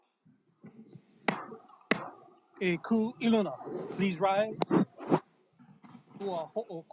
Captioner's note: gavel bangs twice